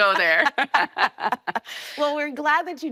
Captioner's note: both laughing